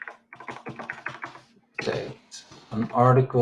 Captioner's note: keyboard clicks